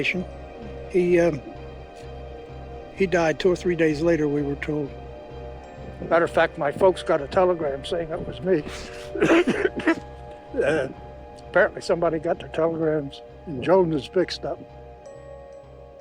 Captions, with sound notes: no relation, he, uh, he died two or three days later, we were told. Matter of fact, my folks got a telegram saying it was me. [coughing] And apparently, somebody got their telegrams and Jones mixed up.